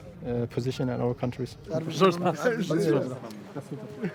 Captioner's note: all speaking foreign language